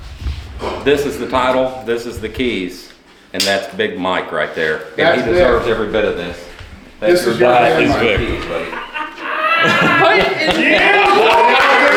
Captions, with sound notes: This is the title, this is the keys, and that's big Mike right there. That's it. And he deserves every bit of this. This is good. This is good. (laughing) (cheering)